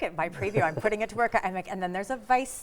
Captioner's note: chuckling